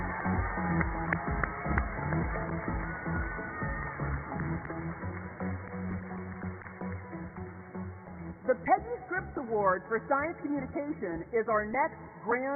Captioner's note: cheers and applause